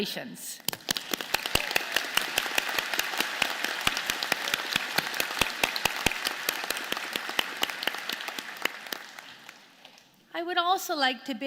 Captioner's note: applause